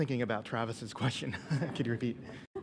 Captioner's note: laughs